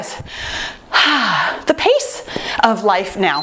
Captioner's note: sighs; timer beeps